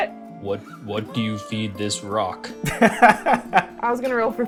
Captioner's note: laughter